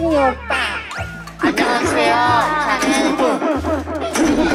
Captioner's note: laughs with no resistance